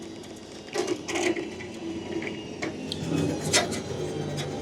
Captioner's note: trailer whirring